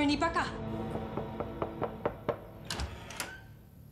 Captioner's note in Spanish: toques en la puerta